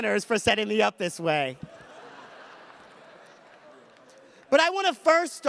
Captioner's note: audience laughs